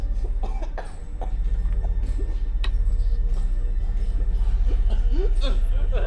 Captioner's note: gentle tense music; victim whimpering